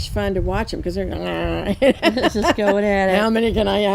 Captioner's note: growls and laughs